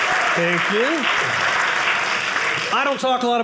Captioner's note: audience cheering